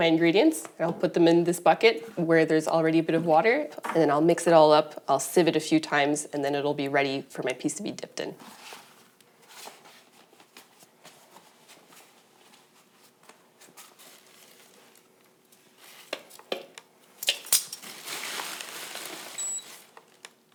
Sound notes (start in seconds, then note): 10.1 glove sounds; 15.1 rustling plastic bags, beeping scale